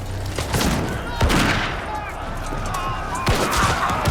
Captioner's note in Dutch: kanonnen vuren